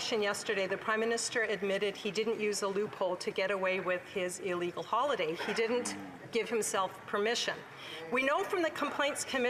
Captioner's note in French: voix de l'interprète